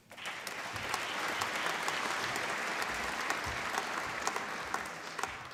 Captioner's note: applause